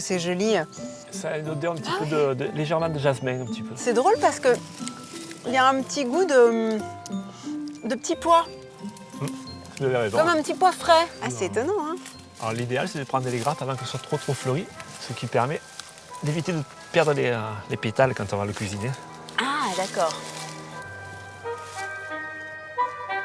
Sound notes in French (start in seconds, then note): 7.0 grognement